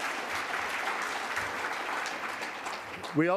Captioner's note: applause